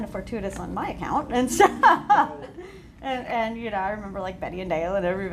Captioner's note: laughs